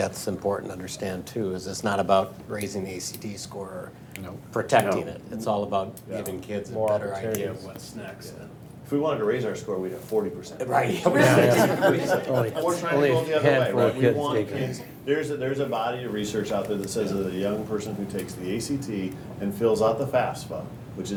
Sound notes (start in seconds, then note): 11.0 laughter